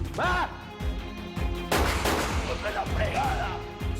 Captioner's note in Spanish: Disparos